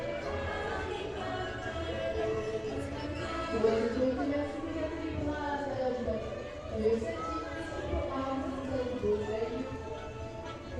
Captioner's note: announcement over the tannoy